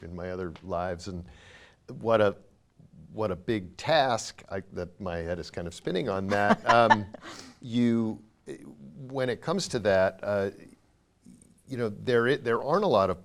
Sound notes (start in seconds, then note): 6.3 laughing